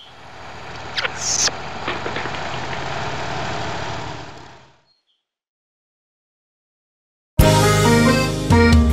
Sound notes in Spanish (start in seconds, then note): 0.0 Sonido de tractor; 7.4 Mùsica alegre